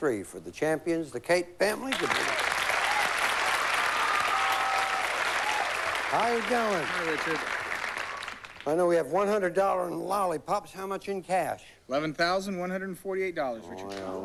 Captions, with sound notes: DAY 3 FOR THE CHAMPIONS, THE CATE FAMILY. [APPLAUSE] HOW YOU DOING? HI, RICHARD. I KNOW WE HAVE $100 IN LOLLIPOPS, HOW MUCH IN CASH? $11,148, RICHARD.